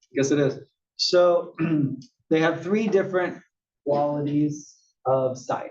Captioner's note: cough